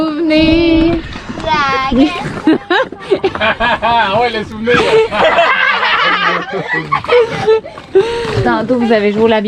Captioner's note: laughs